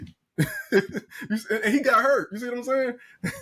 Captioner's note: laughing